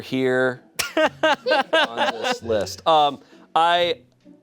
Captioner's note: laughing